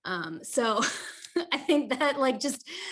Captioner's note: chuckles